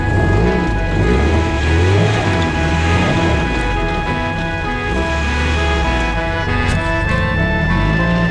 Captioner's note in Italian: Sound motore Alfa Romeo Matta in fuoristrada